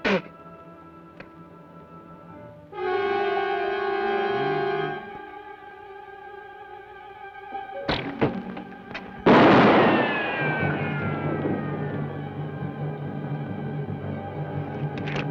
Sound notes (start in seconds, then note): 0.0 spits; 2.8 ominous orchestral music; 7.9 bow twangs; 9.2 gun fires; 9.2 bullet ricochets